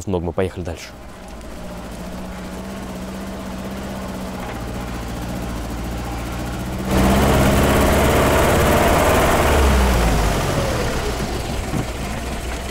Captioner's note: car engine running